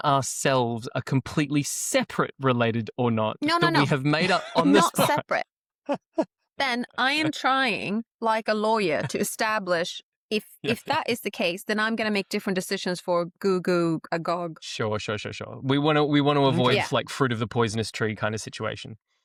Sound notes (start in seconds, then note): 6.7 laughter